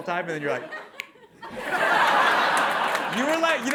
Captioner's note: snaps fingers